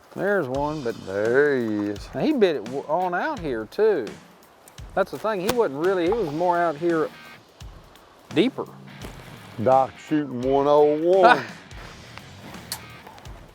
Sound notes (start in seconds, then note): 11.2 laughs